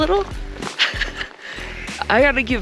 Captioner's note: laughing